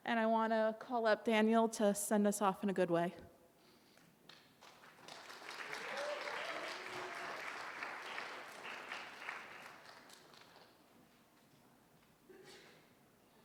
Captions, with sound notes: and I wanna call up Daniel to send us off in a good way. [audience applause]